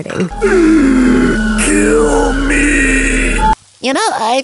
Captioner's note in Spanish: Inhala profundo y fervoroso